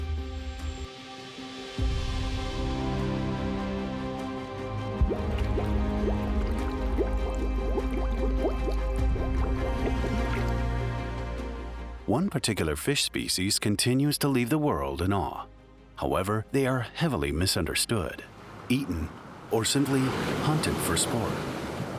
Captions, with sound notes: (gentle bright music) (water bubbling) One particular fish species continues to leave the world in awe. However, they are heavily misunderstood, eaten or simply hunted for sport.